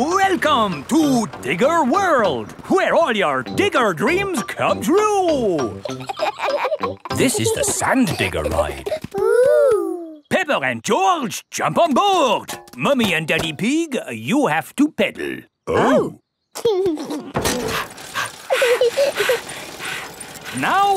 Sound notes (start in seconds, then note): 5.7 kids laughing; 17.6 peppa chuckles; 17.6 daddy pig panting; 17.6 mummy pig panting; 18.1 chuckles